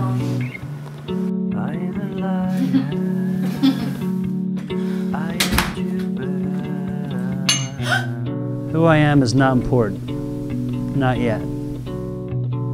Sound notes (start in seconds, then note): 3.4 laughter; 7.4 glass clink